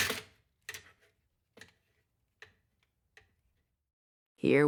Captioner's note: sounds of steam wand and espresso grinder